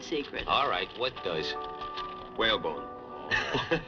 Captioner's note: chuckles